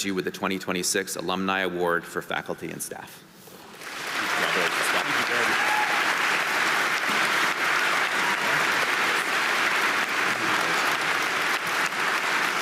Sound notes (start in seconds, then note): 3.7 audience applauding